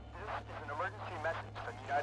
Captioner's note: man On Radio